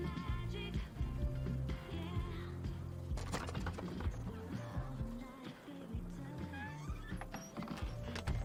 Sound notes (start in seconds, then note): 2.0 door opopens